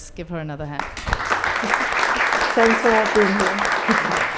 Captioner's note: applause